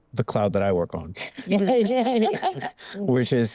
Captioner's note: panelists laughing